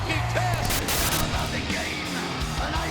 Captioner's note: heavy metal music; static crackling